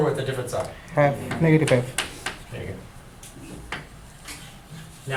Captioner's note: voiceover